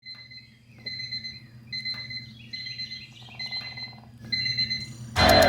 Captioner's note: alarm clock beeping; birds chirping